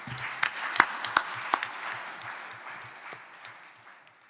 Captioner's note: audience applauds